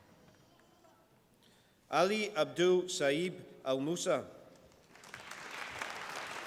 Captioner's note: applause